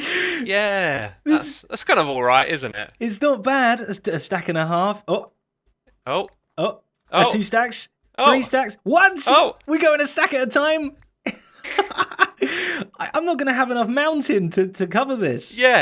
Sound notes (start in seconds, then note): 11.2 laughs